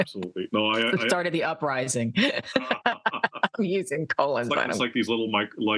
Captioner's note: laugh